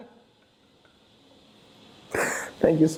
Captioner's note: laughing